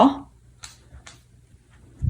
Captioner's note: faint sound of Bunny walking